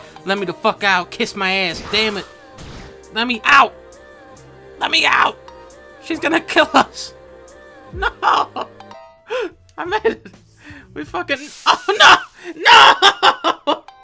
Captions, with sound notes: Let me the fuck out and kiss my ass Let me out! Let me out! She is gonna kill us Nooo *breaths* I made it We fuckin- OH NO NOOO